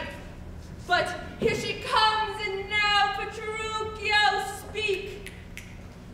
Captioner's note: snaps